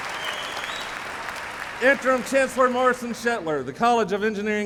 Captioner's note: applause